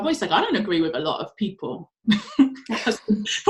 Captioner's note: laughs